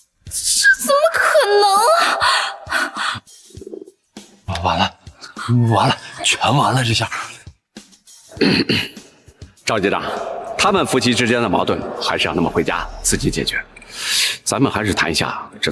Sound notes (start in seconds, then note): 8.3 cough, cough